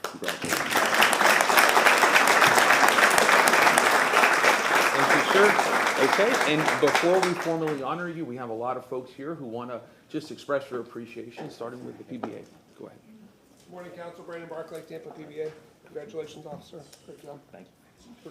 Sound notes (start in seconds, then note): 4.8 applause